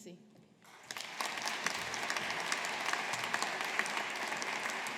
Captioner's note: audience applauding